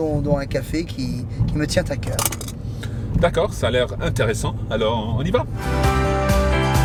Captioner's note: men continue conversing in foreign language; bright music